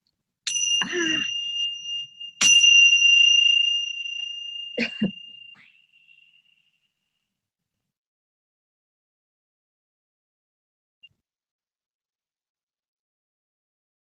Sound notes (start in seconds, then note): 0.4 bell rings